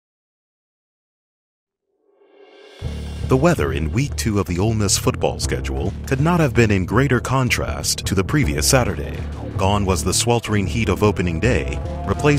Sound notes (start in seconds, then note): 3.4 voiceover